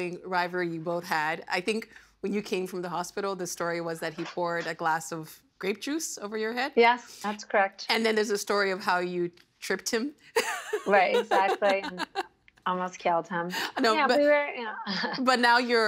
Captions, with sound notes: the sibling rivalry you both had. I think when you came from the hospital, the story was that he poured a glass of grape juice over your head. Yes, that's correct. And then there's a story of how you "tripped him." (Laughing) Right, exactly. Almost killed him. No, but-- Yeah, but we're--